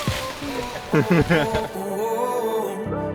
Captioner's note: laugh; upbeat music